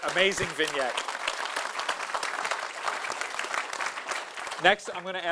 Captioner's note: audience applauding